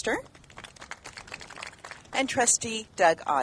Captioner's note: applauding